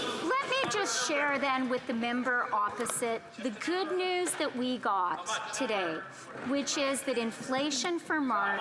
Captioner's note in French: voix de l'interprète